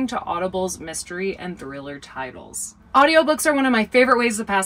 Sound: none

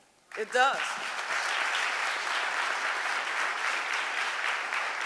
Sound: audience applauding

